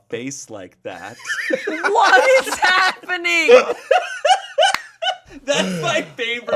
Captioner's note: pair laughing